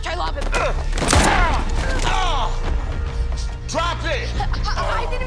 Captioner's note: gun fires